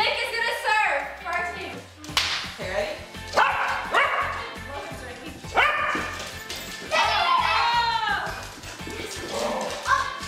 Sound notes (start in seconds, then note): 3.6 dog barks; 7.3 screams